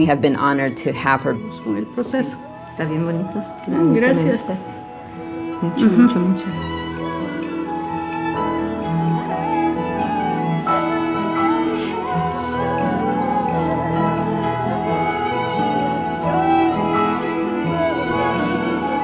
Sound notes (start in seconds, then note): 8.4 speaking spanish